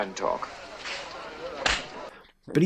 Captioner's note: smack